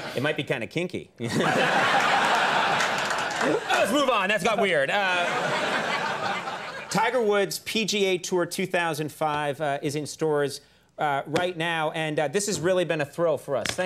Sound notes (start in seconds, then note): 1.2 Tiger Woods laughs; 1.2 audience laughs